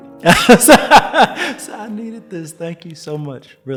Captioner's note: laughs